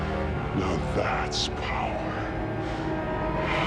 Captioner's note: in high-pitched voice